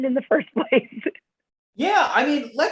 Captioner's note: laughter